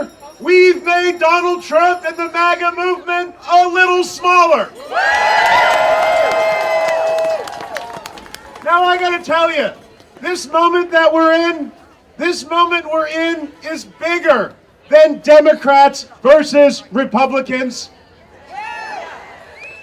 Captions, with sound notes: we've made Donald Trump and the MAGA movement a little smaller. (audience cheering) Now I gotta tell you, this moment that we're in, this moment we're in is bigger than Democrats versus Republicans.